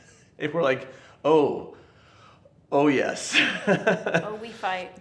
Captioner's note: chuckles